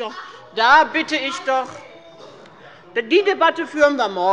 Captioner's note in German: Lebhafte Zurufe von der FDP